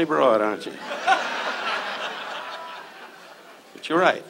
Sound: audience laughs

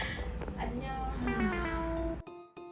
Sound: sigh

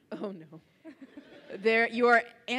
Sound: laughs

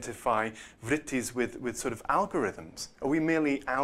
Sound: non-english

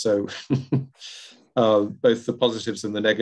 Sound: laughs

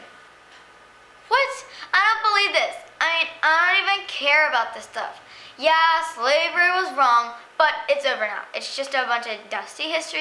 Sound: exasperated

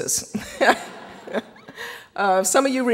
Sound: audience laughing

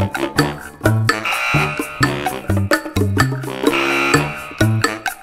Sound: buzzer honks

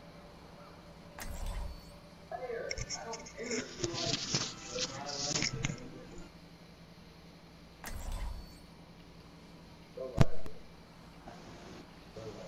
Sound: awkward silence

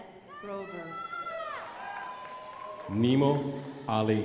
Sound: crowd applauding

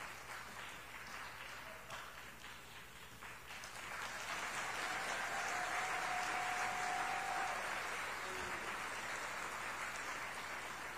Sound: applause

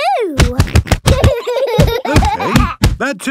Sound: banging

